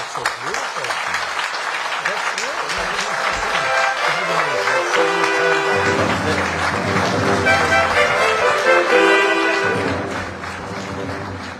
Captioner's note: applause; orchestral music playing